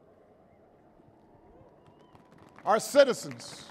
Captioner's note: applause